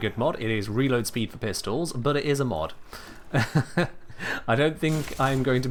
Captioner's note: chuckles